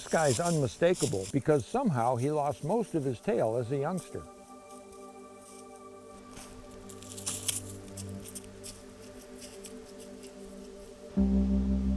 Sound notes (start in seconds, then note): 7.6 footsteps rustling; 11.0 reflective music